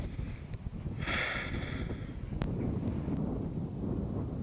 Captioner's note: Jason sighs